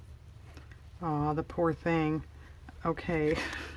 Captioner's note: laughs